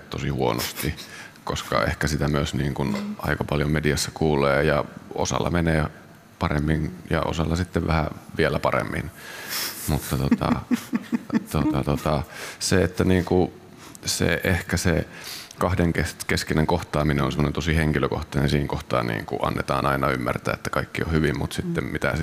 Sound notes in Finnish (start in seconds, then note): 10.1 Juontaja nauraa